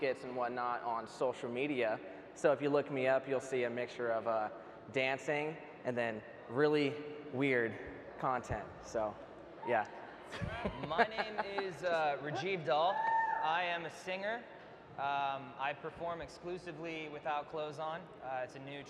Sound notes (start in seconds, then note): 10.3 laughs; 12.5 audience member hoots